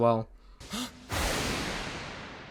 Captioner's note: Bakugo gasps